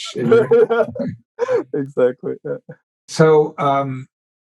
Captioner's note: laughs